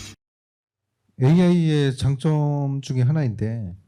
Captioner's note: speaking korean